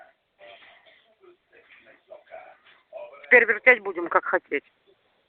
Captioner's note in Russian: говорят по-русски